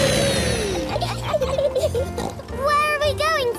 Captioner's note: laughs and snorts